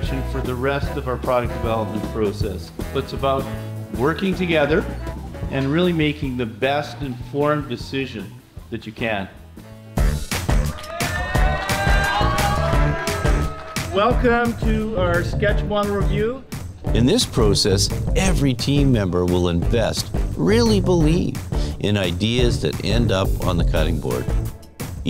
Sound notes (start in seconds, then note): 10.3 lively music; 10.6 students cheering